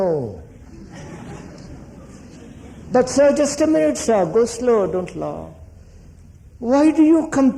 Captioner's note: laughter